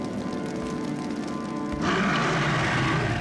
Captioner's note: grunting